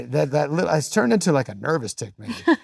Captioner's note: coughs